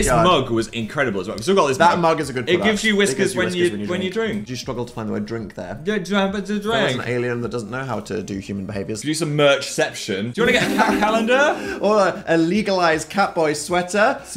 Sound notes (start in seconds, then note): 5.8 babbling; 10.4 laughs